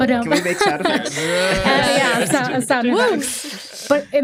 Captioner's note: cheering, indistinct chatter